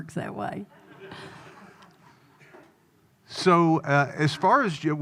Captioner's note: audience laughing